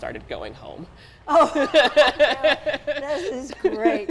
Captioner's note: both laugh